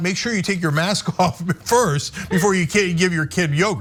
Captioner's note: laugh